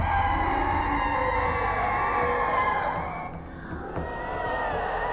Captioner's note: revenants screeching